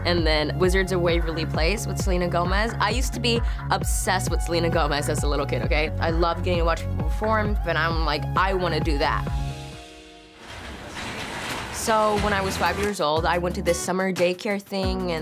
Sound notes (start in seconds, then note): 10.4 curtains rustling; 11.9 easygoing guitar music